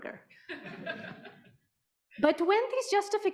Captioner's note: audience laughing